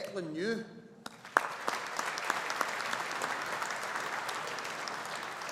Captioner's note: audience applauding